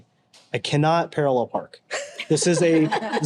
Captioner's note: group laughs